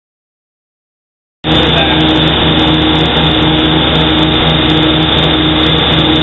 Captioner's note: boat engine humming